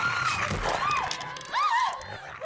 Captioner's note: screams